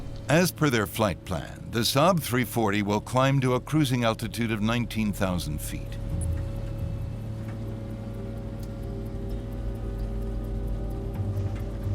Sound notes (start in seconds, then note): 6.3 airplane engine roaring; 6.3 sinister music